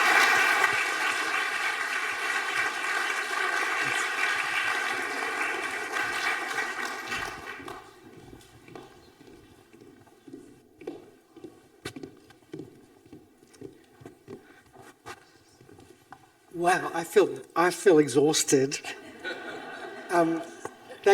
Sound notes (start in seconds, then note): 0.0 audience applauding; 7.5 footsteps thumping; 18.8 audience laughing